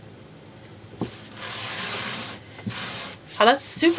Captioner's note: tool scraping